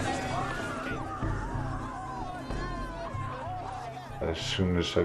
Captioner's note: people shouting